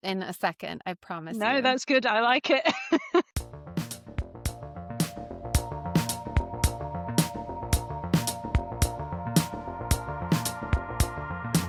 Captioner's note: laughs